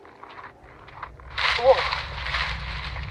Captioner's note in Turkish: çalı hışırtısı